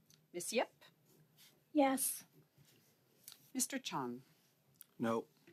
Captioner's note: speaking French